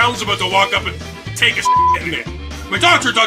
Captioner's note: beep